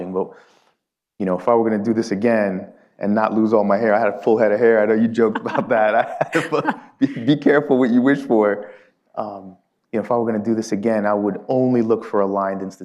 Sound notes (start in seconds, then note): 5.1 laughs